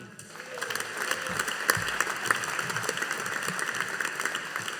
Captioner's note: audience applauding